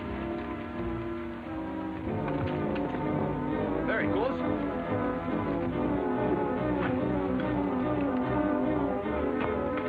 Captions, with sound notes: (horse galloping) - There he goes! (ominous music)